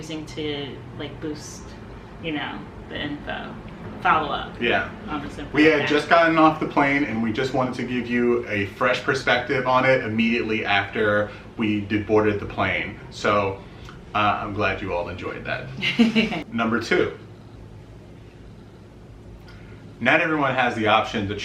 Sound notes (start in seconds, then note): 15.8 laughs